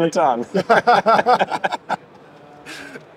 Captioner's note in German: Beide lachen